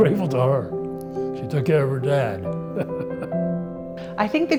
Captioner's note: laughs